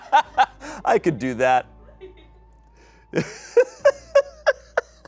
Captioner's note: audience laughing; laughs